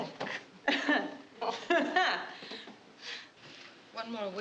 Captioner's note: laughing